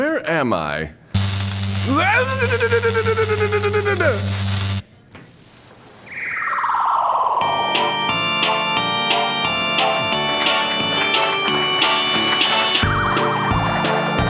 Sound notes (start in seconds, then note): 6.1 electrocuted sounds